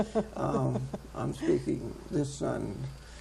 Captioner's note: laughing